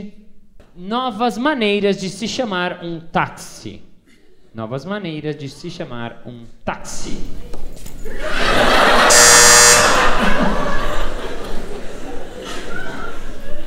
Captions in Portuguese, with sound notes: 'Novas maneiras de se chamar um táxi' [campainha]